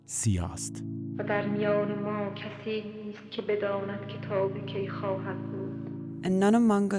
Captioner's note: soundbite of film, "the house is black"